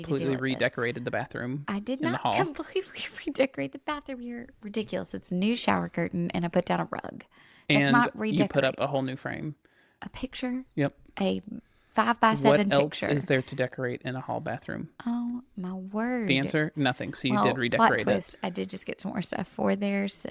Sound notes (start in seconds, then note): 2.0 laughs